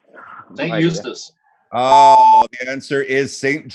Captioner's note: beeps